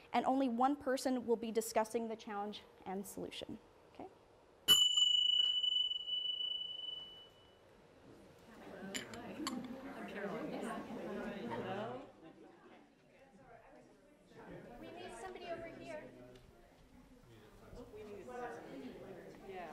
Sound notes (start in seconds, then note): 4.6 bell